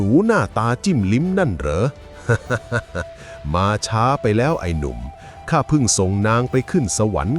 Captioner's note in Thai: เสียงหัวเราะ